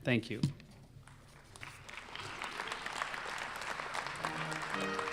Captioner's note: applause